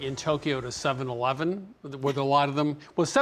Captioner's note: laughs